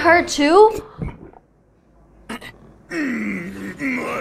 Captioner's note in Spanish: con toda la incredulidad del mundo